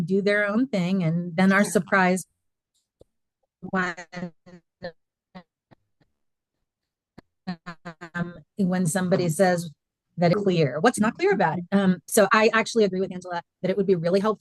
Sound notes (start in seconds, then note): 4.4 indistinct conversation